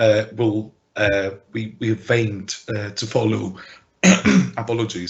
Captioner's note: clears throat